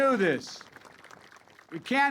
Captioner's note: applause